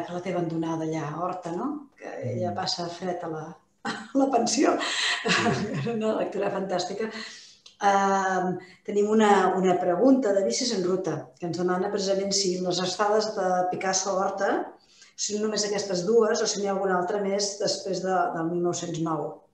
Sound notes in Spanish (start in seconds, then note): 4.9 risas